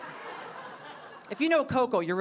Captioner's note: audience laughing